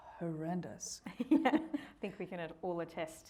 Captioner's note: both laughing